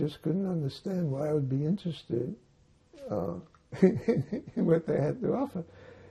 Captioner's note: laughing